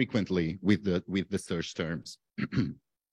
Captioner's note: clears throat